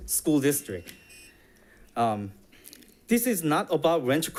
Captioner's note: alarm buzzes